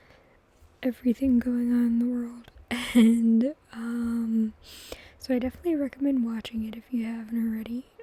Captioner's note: laughs